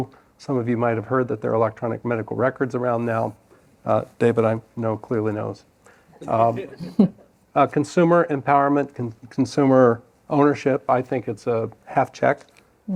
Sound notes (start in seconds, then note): 6.6 laughter